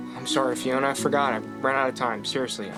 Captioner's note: none